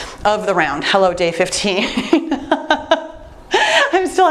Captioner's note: laughs